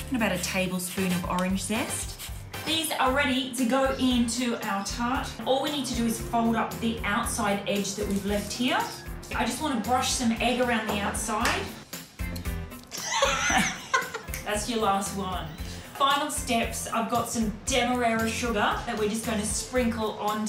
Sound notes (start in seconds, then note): 12.9 laughs